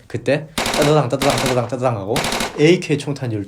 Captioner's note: bang bang bang